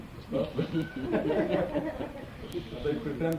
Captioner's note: laughter